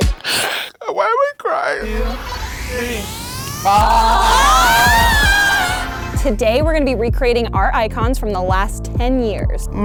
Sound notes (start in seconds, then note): 3.7 girls exclaiming